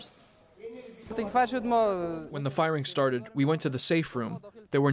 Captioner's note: through translator